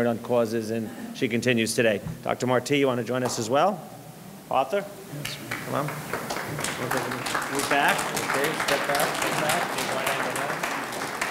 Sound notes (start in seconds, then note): 5.2 audience clapping